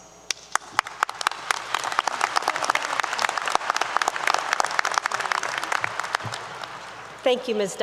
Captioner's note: applause 👏 👏